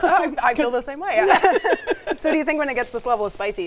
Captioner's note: laughs